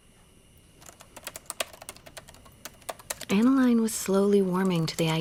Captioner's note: typing